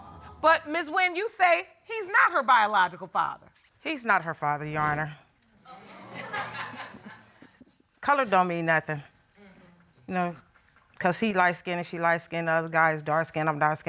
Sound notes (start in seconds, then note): 5.7 audience laughs